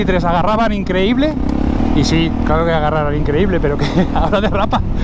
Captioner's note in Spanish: risas